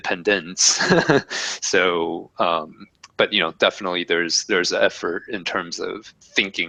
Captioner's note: laugh